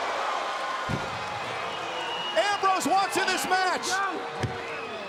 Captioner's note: crowd roars; elbows thud